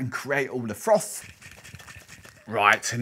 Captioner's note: frothing liquids